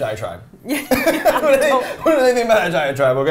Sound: both laughing

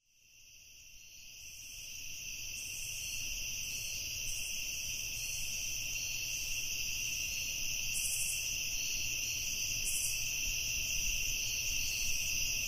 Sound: crickets chirping

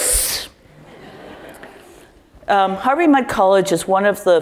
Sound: laugh

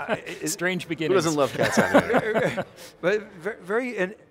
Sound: all laughing

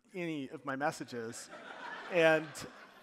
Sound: audience laughing

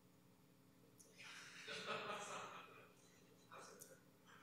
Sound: laughter

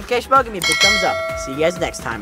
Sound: bell ringing

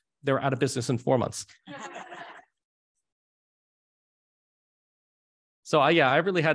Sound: laughter

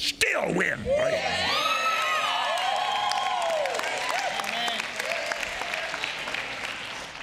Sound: congregation cheering and clapping

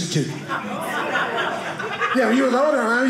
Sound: audience laughing

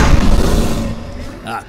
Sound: roar

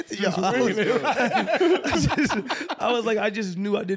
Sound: laughing

